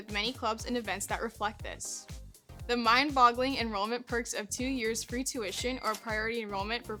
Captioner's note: cash register sound